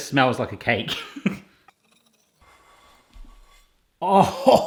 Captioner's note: laughing; laughs